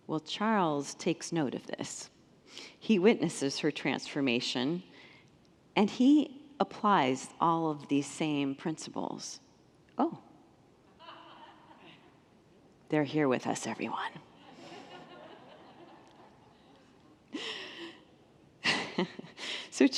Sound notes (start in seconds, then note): 14.4 congregants laugh; 17.8 laughs